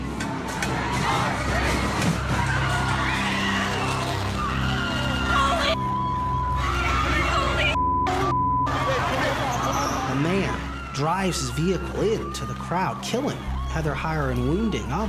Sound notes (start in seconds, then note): 2.8 crowd screaming; 8.6 crowd screaming